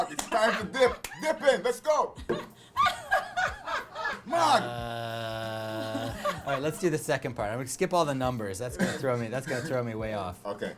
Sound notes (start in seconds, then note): 2.1 laughter